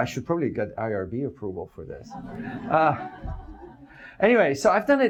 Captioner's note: audience laughs